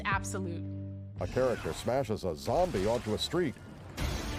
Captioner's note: grunting and smashing